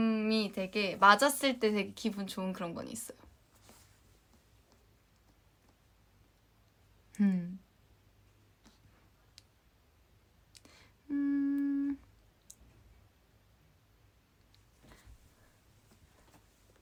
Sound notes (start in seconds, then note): 10.6 hmm